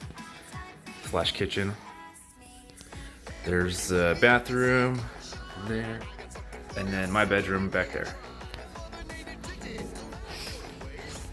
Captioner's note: bonk